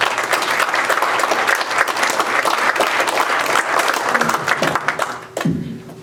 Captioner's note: applause